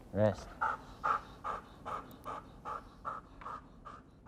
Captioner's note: dog pants